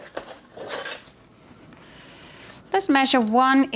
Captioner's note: ruler swishes